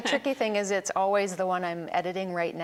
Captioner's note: laughing